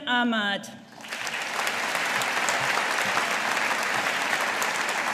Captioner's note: audience applauding